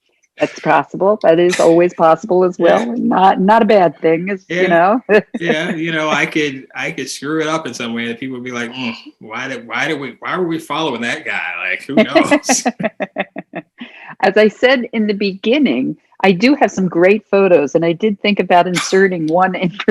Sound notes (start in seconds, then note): 5.2 laughing; 10.6 laughter